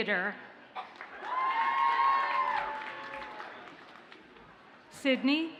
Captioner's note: audience cheers and applauds